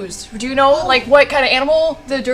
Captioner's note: none